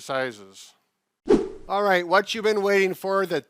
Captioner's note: screen whooshing